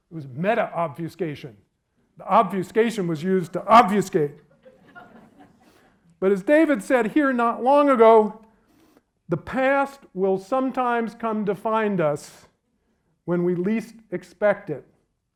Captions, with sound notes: It was meta-obfuscation. The obfuscation was used to obfuscate. (audience laughs) But as David said here not long ago, the past will sometimes come to find us when we least expect it.